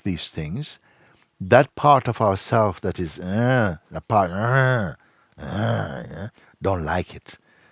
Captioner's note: imitates growling